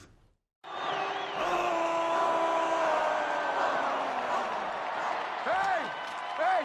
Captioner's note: crowd cheering; Hulk screaming